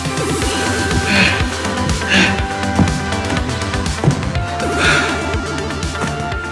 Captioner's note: upbeat music; Martin grunting